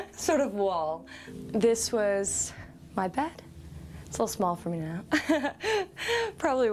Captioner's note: laughs